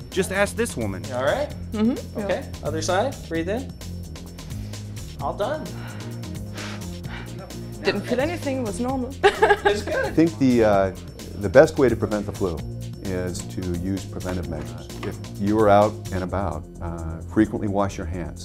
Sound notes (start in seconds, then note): 4.4 inhales; 5.6 exhales; 9.2 laughs